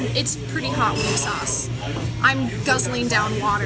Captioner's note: plate clatters in the kitchen